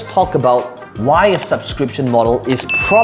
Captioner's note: mouse clicking; bell ringing